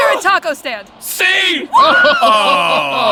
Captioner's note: laughs